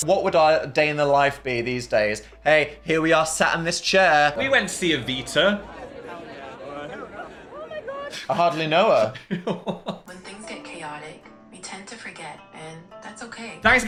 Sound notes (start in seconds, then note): 9.6 laughs; 10.3 soothing Voice